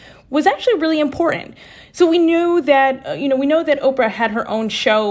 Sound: none

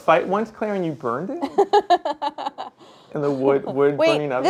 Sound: laughs

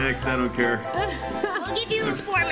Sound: laughs

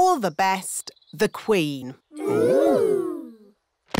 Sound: none

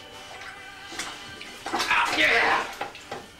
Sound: grunts

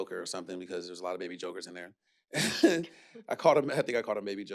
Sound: chuckles

